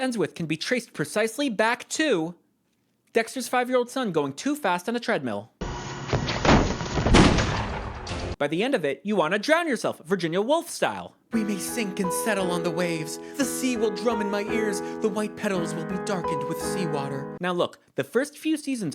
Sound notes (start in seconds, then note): 6.1 slip, thud; 6.2 gunshot; 11.3 dramatic piano